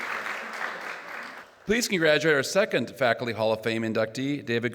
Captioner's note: applause